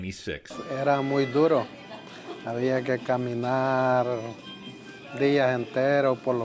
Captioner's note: speaking in Spanish